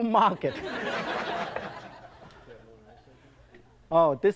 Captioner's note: audience laughs